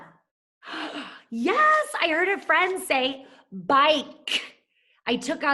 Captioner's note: gasps